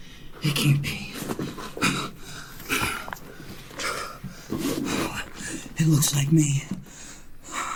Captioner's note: panting